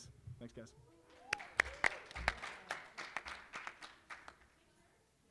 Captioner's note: applause